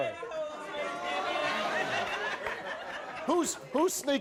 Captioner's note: crowd laughs